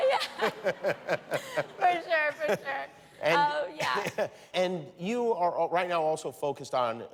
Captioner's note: laughter